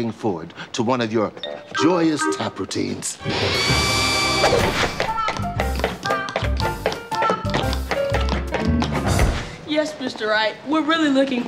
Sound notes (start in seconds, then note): 5.1 tapping